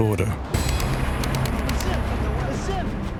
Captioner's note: gunfire